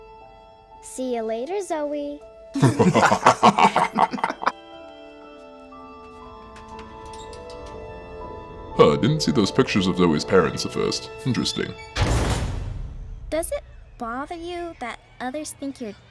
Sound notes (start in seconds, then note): 5.1 more laughter